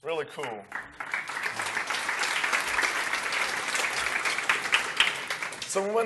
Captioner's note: applause